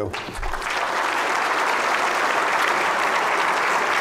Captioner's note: applause